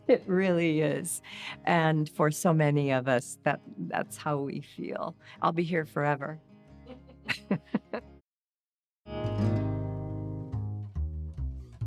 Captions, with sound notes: It really is. And for so many of us, that's how we feel. I'll be here forever. (laughter) (mellow music)